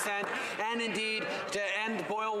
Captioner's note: some Applause